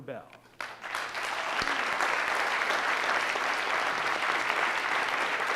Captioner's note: audience applauding